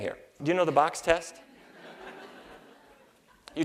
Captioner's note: laughter